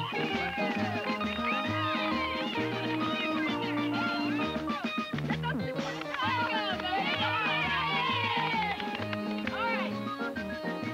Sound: applause and cheering

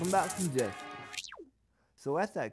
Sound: traffic sounds

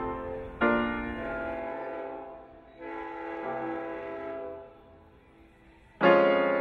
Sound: boat horn

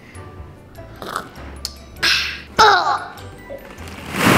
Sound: slurps; balls slush around

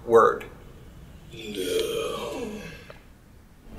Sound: groan

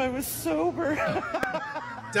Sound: laughing

